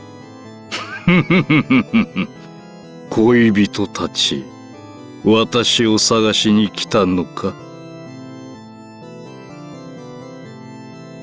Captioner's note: laugh